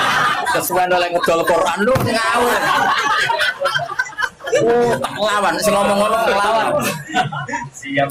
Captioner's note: laughs